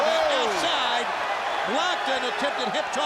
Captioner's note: audience cheers